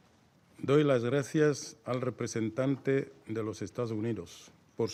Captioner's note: in Spanish